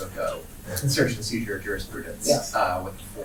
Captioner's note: faintly speaking